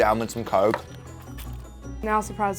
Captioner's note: sipping sound